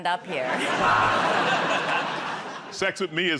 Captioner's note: laughter